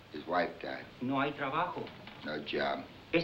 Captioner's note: speaking spanish